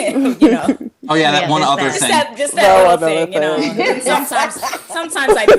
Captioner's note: laughs